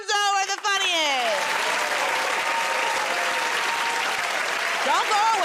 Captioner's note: cheers and applause